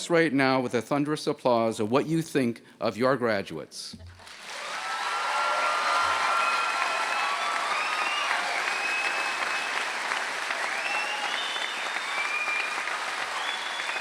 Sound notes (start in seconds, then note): 4.2 cheers and Applause